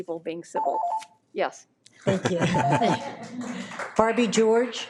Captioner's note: audience applauds